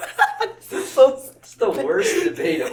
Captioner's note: more laughter; drunk English